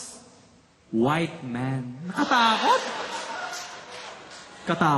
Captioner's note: laughter